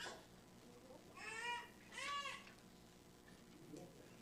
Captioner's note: baby crying